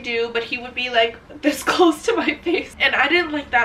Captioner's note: laughing